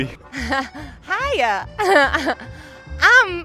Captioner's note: laughs